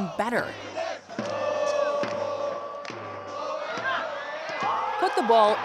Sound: fans cheering

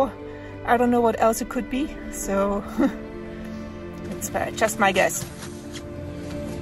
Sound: laughs

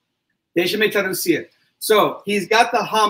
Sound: speaks portuguese

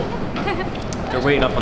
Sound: emma giggles

